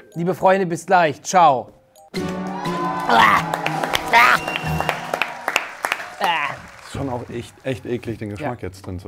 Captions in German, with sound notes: Liebe Freunde, bis gleich, ciao. (Flirrende Musik, Jubel) Wuäh! Wuäh! (Applaus) Schon auch echt eklig, den Geschmack jetzt drinzuhaben.